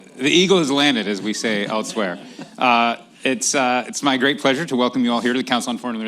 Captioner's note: laughter